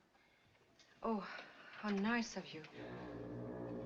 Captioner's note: foghorn Blows